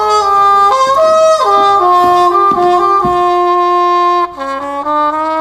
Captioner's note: footsteps thudding